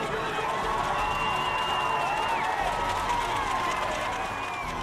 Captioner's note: cheering